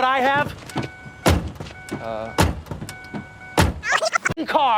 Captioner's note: car door opening and slamming shut; beep